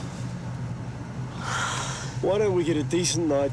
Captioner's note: Jodie sighs